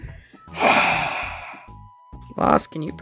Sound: sigh

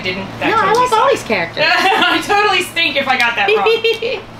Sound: laughter

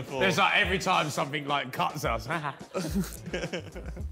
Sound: all laughing; laughs

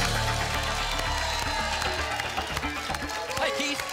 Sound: applause and cheering cont

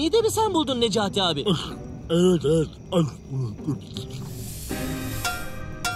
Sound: eating

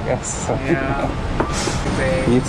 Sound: host laughs

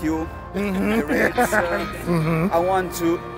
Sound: laughs

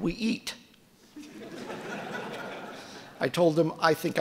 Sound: audience laughing

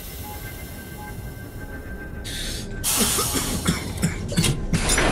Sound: coughing; clanging

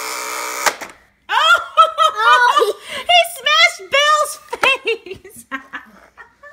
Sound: laughing

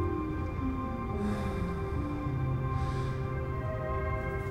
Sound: Flavio exhales

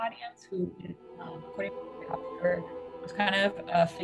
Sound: audio distortion

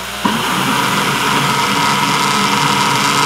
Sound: whirring

